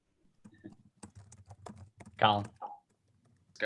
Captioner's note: keyboard typing